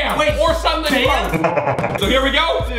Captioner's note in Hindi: शैतानी हंसी